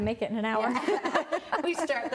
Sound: laughing

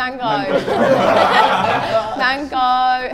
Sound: everyone laughs

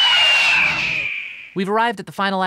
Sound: screeching

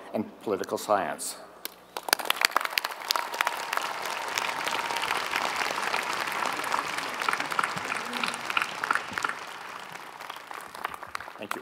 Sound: applause

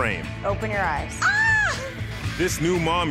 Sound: screaming

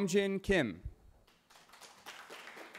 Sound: cheering

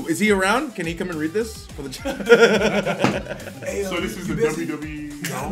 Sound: laugh

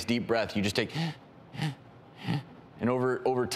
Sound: shallow breathing noises

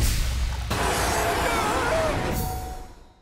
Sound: screaming

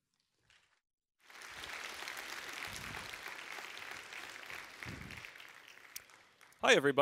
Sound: applause

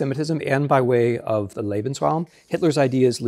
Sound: speaking German

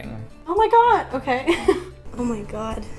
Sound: chuckles

